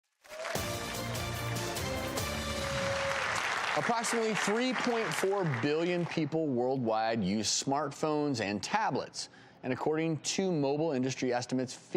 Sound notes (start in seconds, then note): 0.2 audience cheers and applause; 0.5 upbeat music